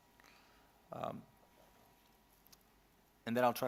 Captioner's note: silence